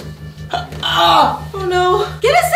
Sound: groans in pain

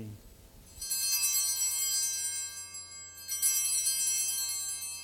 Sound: bells ringing three times

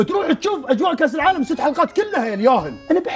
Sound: laughs

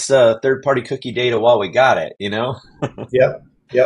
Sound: chuckles

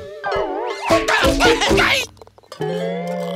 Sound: yelling; groaning

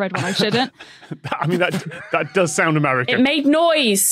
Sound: laughs

